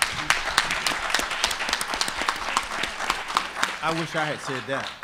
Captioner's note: audience clapping